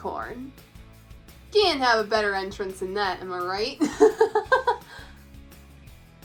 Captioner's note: laughs